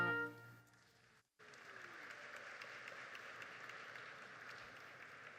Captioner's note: audience applauding